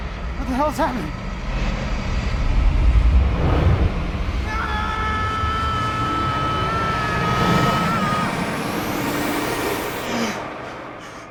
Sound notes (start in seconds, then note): 4.3 shouts; 9.7 gasps